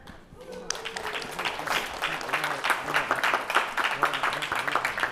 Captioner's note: applause